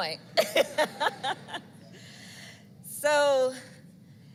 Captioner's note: laughs